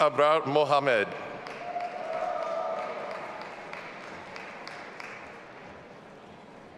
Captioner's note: audience applauding and cheering